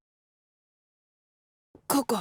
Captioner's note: silence